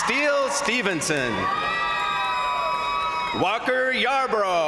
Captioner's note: crowd applauding; crowd cheering